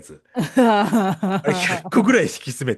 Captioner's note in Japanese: 笑い